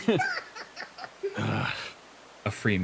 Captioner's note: laughs; Tartre Grumbles